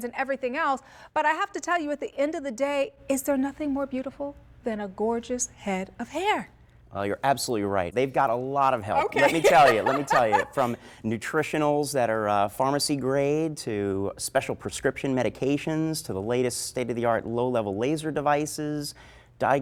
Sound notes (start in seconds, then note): 8.9 laugh